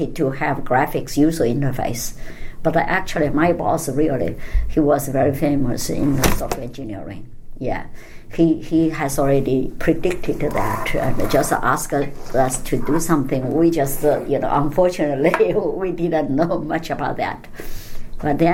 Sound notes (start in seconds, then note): 10.0 scraping sound; 15.8 laughs